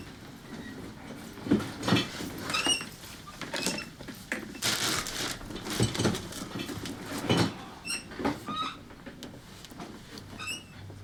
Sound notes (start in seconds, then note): 0.2 chair squeaking; 4.3 papers rustling